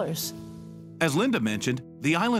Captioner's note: voiceover